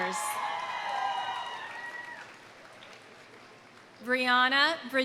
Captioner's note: audience cheering; audience applauding